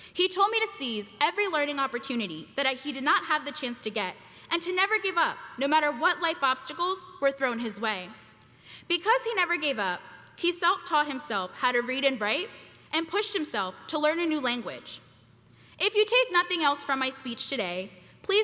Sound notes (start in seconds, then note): none